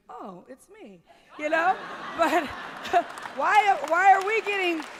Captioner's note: laughter and some applause